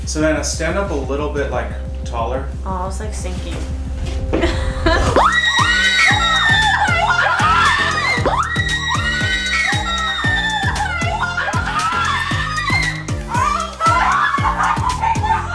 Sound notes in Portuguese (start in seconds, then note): 5.1 Gritos